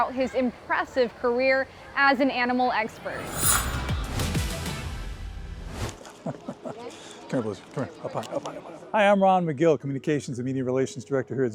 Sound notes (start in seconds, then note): 6.0 laughs